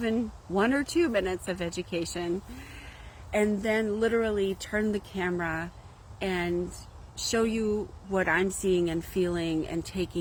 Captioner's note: tone of laughter